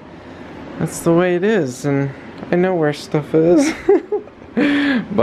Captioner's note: chuckles